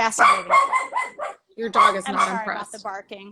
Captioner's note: dog barking